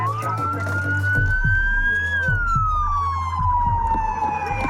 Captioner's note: siren